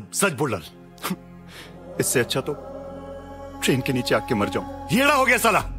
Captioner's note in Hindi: सिसकते हुए